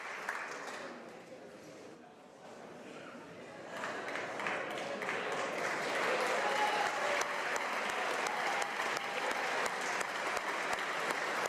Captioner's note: applause